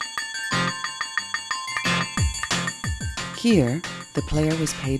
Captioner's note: winning bells